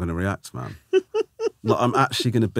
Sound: laughing

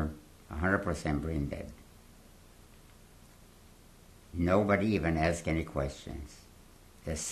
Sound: pauses for 3 seconds

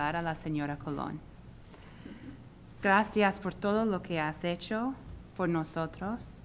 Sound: speaking spanish

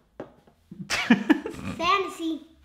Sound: laughter

